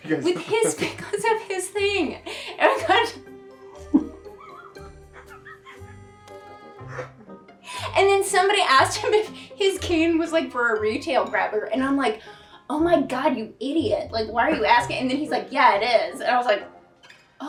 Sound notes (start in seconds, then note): 3.7 indistinct laughing; 6.8 wheezing